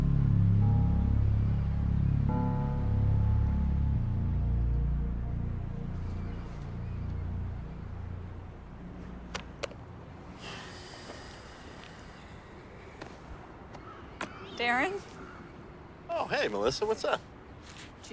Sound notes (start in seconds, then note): 9.5 notebook page thuds; 10.3 Darren sighs